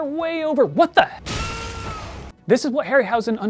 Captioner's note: a crash and a yell of pain